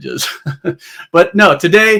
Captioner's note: laughs